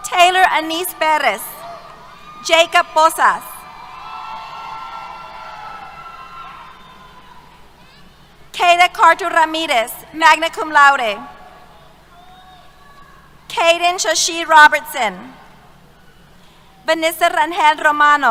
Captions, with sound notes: Tayelor Anise Perez. Jacob Posas. [ Cheers ] Kade Kaito Ramirez, magna cum laude. Kaydin Shae-Lee Robertson. Vanessa Rangel Romano.